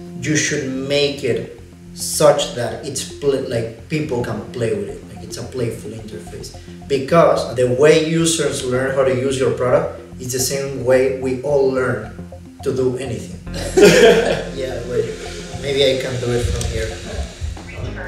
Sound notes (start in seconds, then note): 13.5 founders laughing